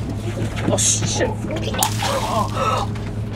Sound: vomitted

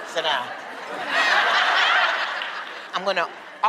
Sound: laughter

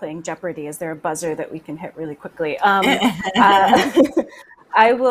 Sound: laughs

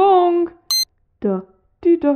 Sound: beep!

